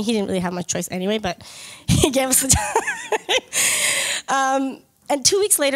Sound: laughs

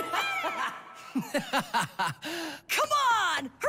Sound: laughing

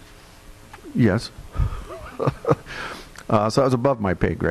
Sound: laughing

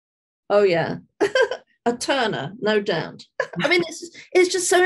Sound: chuckling

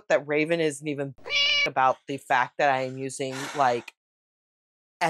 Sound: meow

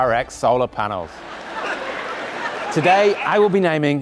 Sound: audience laughing and applauding

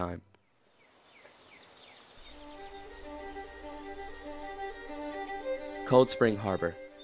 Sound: birds chirping/music

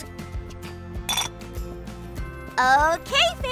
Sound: clanks

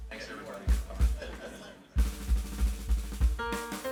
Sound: audience laughs; upbeat music

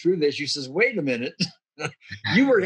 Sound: giggling

